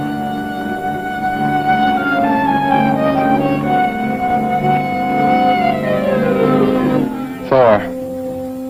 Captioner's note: moans